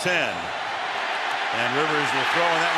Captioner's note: cheering